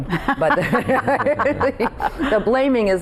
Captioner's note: group laughing